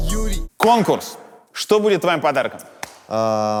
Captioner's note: title card music; claps hands